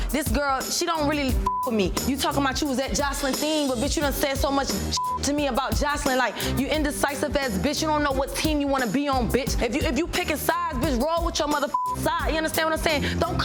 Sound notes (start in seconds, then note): 1.4 beep; 4.9 beep; 11.6 beep